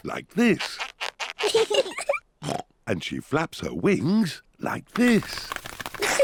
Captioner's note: both laugh; oinks; both laugh